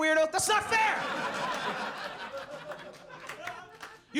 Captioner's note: audience laughs